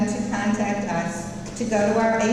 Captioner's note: none